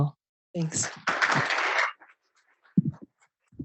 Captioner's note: applause